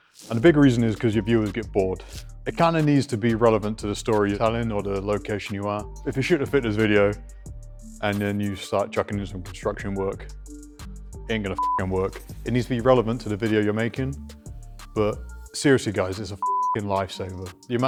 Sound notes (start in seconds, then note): 11.5 beep; 16.4 beep